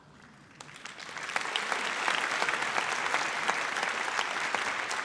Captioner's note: audience applauds